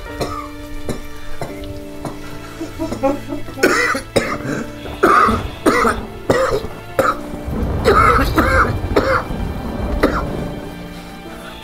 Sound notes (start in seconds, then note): 2.0 crying; 4.6 coughs